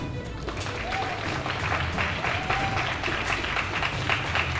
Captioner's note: audience clapping